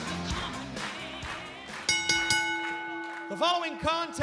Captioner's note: bell ringing